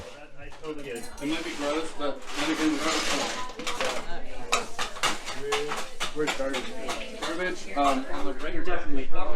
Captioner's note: chatter